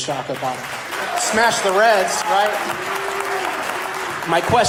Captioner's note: audience applause